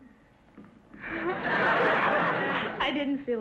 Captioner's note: audience laughter